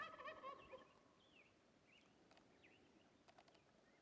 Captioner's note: turkey calling